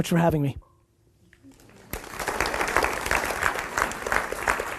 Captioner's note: audience applauds